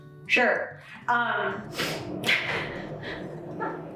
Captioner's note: laughs